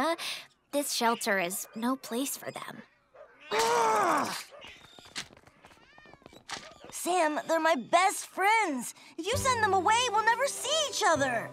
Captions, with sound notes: The shelter is no place for them. [growling] Sam, they're my best friends! If you send them away we'll never see each other.